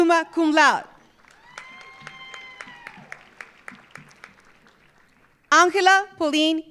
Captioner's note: audience applauding; audience cheering